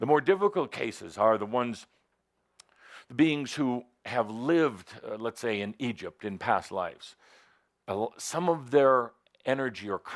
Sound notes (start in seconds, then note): none